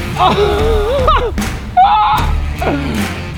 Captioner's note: laughter